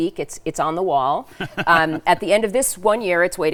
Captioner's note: laughing